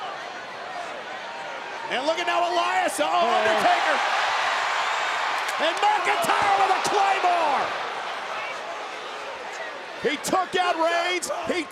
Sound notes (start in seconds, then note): 4.3 audience cheering